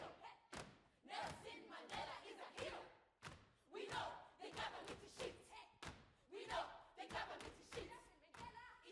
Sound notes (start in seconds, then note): 0.2 students chanting